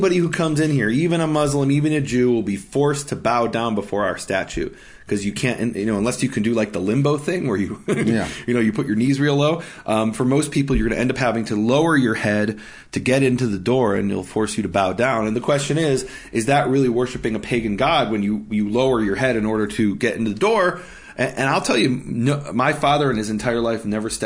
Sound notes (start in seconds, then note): 7.7 laughing